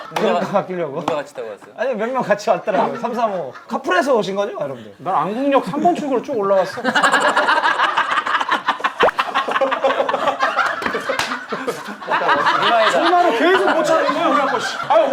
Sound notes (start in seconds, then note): 6.9 laughing; 8.9 he's laughing so hard his ribs are hurting; 12.2 laughing